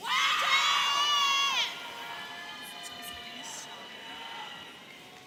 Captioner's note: audience cheering